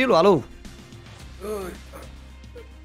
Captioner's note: pain moans